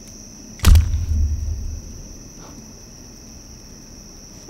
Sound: banana splats

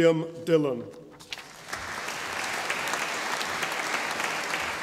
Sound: audience applauding

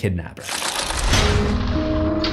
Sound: impact

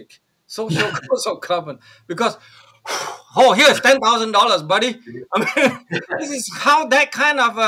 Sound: exhales

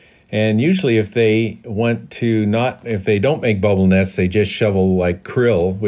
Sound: none

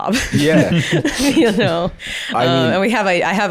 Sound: laughs

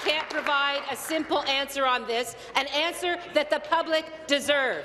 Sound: applause

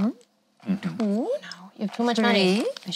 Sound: none

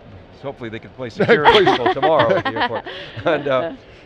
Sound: laughing

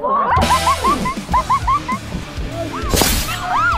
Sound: laughs

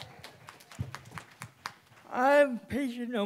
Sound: applause

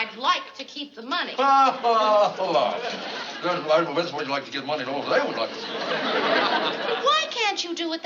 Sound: chuckles

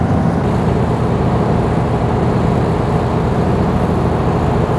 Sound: boat roars

